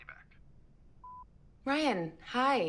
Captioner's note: phone beeping